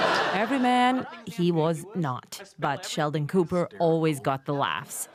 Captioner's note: laughter